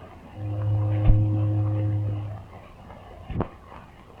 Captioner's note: ship horn moaning